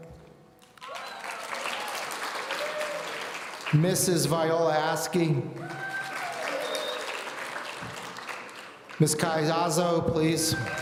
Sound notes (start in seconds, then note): 0.6 audience applauding; 5.5 audience applauding